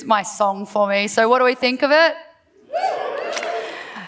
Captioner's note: cheers